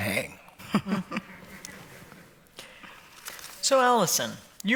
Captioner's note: laughter